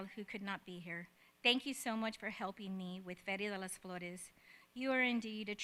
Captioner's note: speaks in spanish